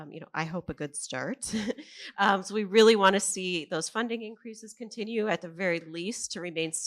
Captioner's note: laughs